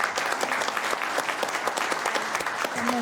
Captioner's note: applause